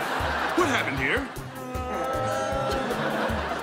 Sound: groaning

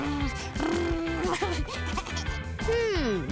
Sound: laughing

